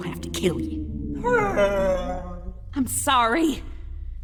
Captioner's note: sad honking